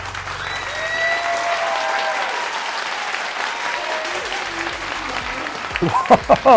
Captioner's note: applauding